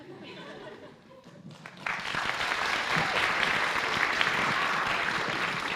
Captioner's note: applause